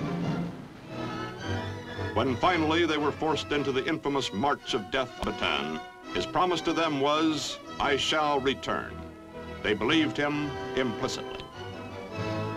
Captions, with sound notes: When finally they were forced into the infamous March of Death (audio skips) Bataan, his promise to them was, "I shall return." They believed him implicitly.